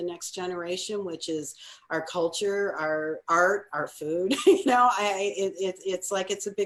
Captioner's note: laughs